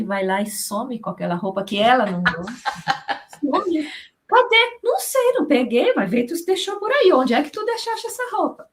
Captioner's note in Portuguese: risadas